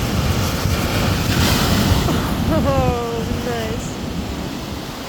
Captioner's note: wave crashes